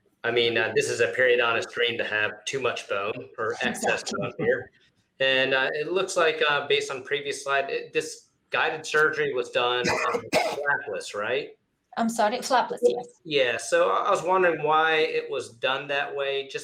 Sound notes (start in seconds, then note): 8.6 doctor coughs